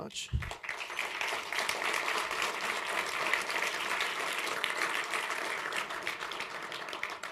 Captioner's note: applause